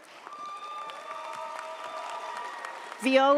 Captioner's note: audience applauds; audience cheers